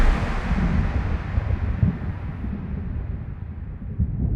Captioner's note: thunder